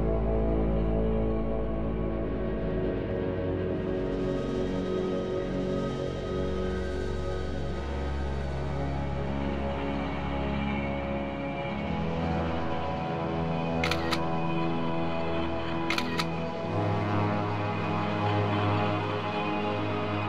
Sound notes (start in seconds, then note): 13.8 camera snapping; 16.9 dark ambient music